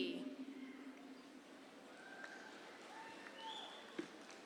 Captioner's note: audience cheers